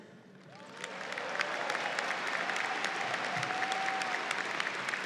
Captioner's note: audience applauds